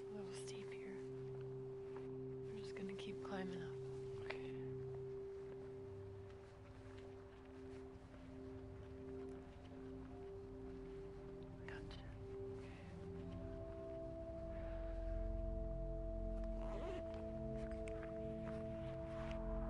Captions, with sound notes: It's a little steep here, we're just gonna keep climbing up. - Okay. - I got you. - Okay. (opens zipper)